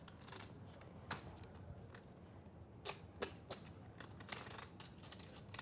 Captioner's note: poker chips clicking